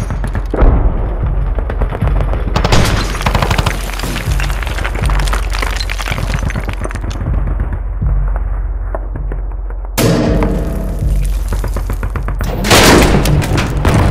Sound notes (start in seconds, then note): 10.0 banging on drop pod door; 12.6 Dreadnought crashing door down